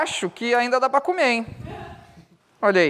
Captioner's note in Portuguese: risadas